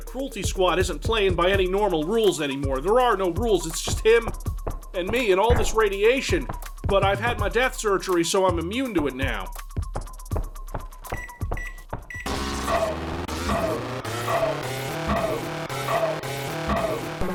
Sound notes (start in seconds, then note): 11.1 microwave oven beeps; 12.3 Bolt ACR's ear-splitting sound effect